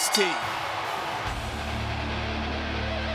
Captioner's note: bell ringing